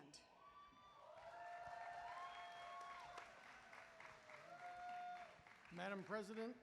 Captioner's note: applause